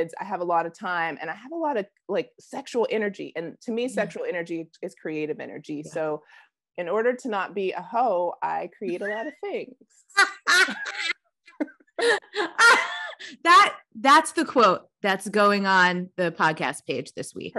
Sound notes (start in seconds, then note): 10.1 laughing